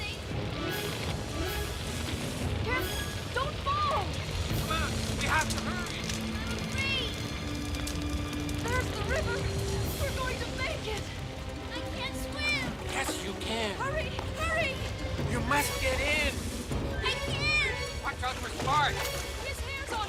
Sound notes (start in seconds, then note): 7.8 fire crackling